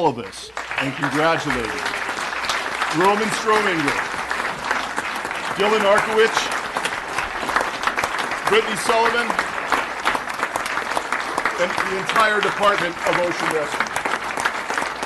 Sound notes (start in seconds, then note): 8.1 applause; 11.1 applause